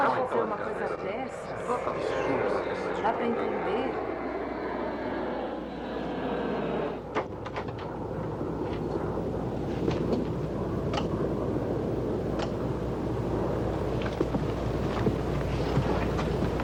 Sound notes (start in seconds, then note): 0.2 airplane Engine Roaring; 4.2 airplane Departs